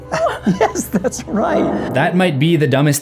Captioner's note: chuckles